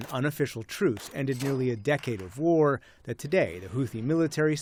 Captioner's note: gunfire